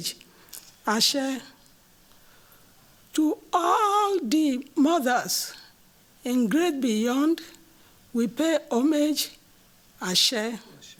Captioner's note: non-english